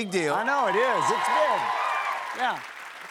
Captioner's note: cheers and applause